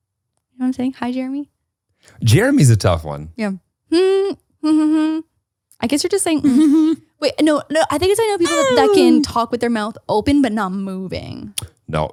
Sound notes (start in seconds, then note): 4.6 humming